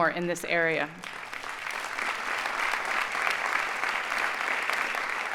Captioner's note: audience applauding